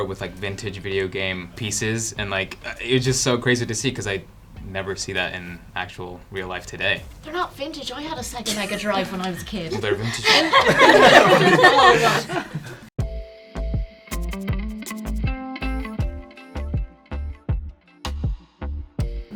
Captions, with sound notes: with vintage video game pieces and it was just so crazy to see 'cause I'd never see that in actual real life today. - They're not vintage. I had a Sega Mega Drive when I was a kid. - Well, they're vintage now. (all laughing) (upbeat music)